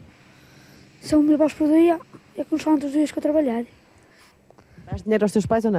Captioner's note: speaking portugese